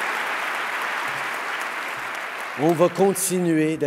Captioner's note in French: Applaudissements